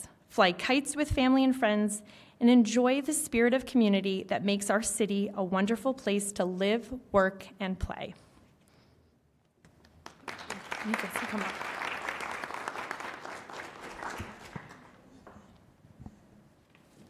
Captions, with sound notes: Fly kites with family and friends and enjoy the spirit of community that makes our city a wonderful place to live, work and play. You can come up. (applause)